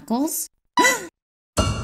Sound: gasps

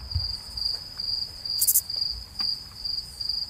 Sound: crickets chirping

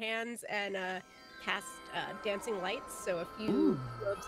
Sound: twinkling

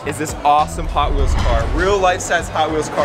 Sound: dramatic bang

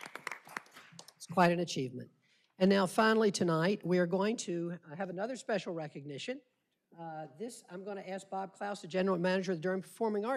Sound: applause

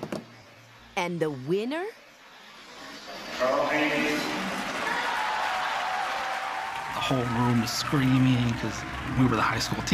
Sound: crowd cheers and applause

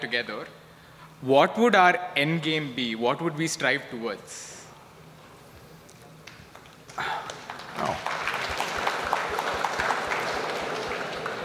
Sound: applauds

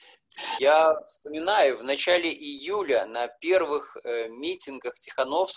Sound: speaking foreign language

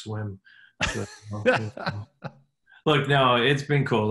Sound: laughing

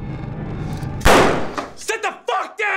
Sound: gun fires

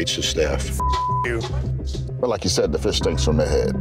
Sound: beeping

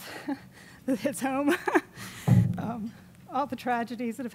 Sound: chuckles

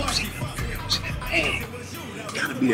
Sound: whispering away from mic

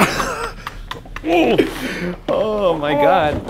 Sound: laughing

